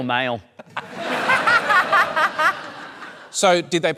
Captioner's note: laughter